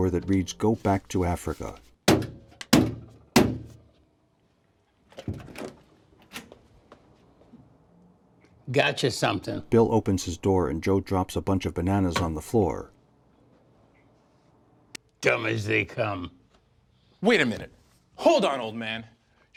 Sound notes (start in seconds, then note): 2.7 pounds on door